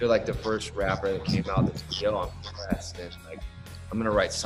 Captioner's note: audio breaks